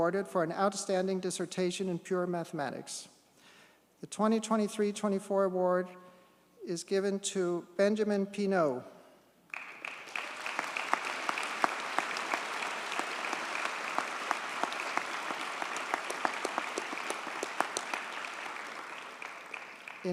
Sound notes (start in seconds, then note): 9.3 audience cheers and applauds